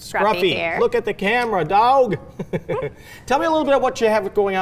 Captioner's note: laughs